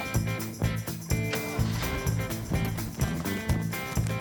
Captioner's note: starts truck